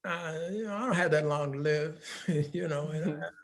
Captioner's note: laughing